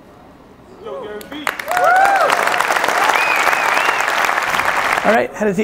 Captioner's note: audience cheers, applauds